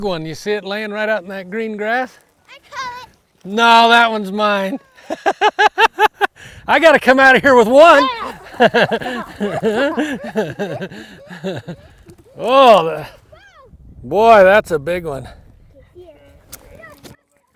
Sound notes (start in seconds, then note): 4.8 laughs; 8.2 both laughing